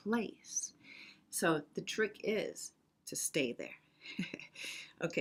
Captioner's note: chuckles